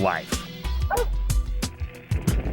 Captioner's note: dog barks